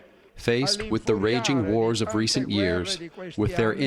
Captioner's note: through translator